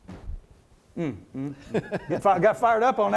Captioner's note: laughs